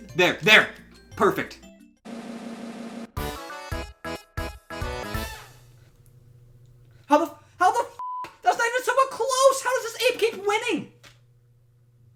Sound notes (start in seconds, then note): 3.1 retro game music; 8.2 beeps